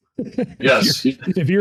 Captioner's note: laughs